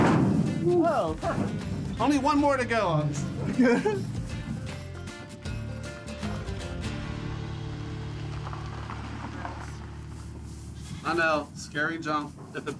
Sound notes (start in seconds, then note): 3.4 laughs